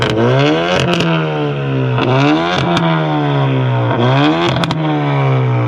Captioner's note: car engine revving